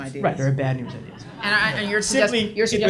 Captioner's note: audience laughs